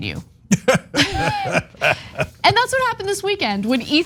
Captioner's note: laugh